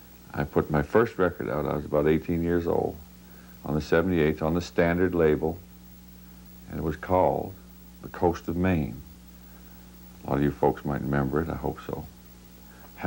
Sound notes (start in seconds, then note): none